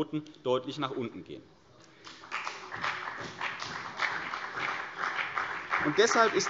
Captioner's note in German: Beifall CDU und BÜNDNIS 90/DIE GRÜNEN